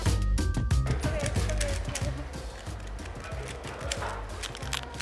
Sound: cube clacking

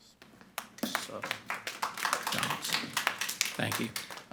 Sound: everyone applauding

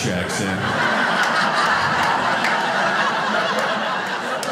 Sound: audience laughing

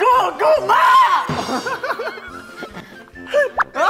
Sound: laughs

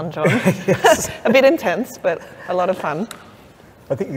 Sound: laughs

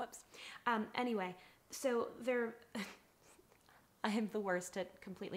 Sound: chuckles

